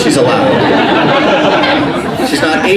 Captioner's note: laughing